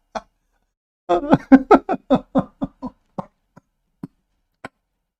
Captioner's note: Ketawa